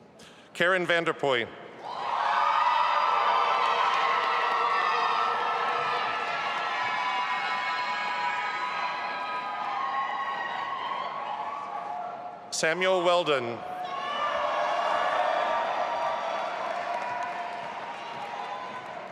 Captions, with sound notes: Karen Vanderpuye. (audience applauding and cheering) Samuel Weldon. (audience applauding and cheering)